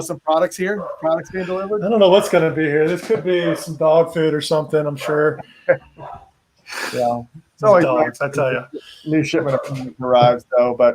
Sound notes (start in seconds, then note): 5.0 laughs